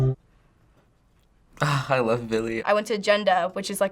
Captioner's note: sighs